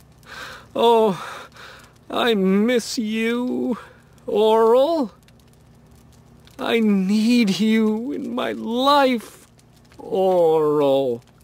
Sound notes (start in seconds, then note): none